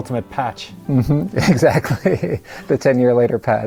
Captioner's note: laughs